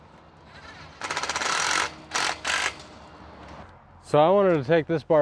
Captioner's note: machine screwing sound